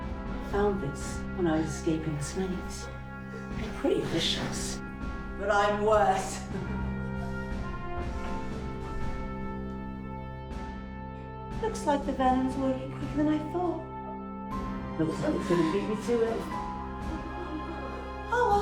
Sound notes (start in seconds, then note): 5.4 laughing; 7.5 dramatic music; 17.4 dramatic music